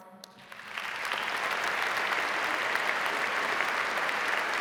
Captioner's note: audience applauding